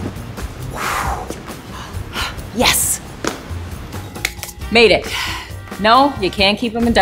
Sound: exhales heavily

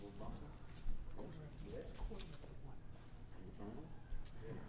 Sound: band members murmuring

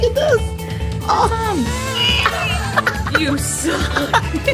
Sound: baby Crying

